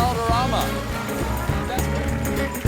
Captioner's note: band playing; cheers and applause